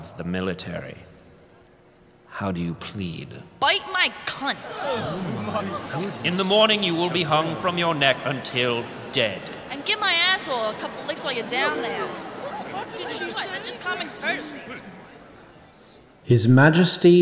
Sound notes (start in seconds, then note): 4.6 gasps and fainting sounds; 12.9 even more extreme gasps